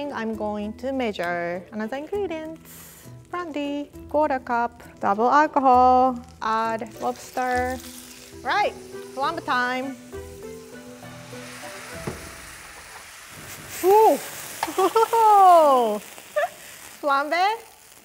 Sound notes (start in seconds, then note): 10.0 brandy sizzling; 10.8 flame roaring; 14.4 laughing